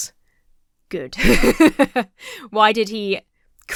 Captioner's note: laughs